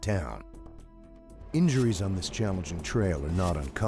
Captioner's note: voiceover